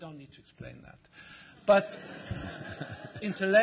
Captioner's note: laughter